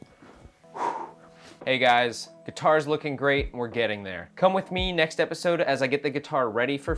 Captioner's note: phew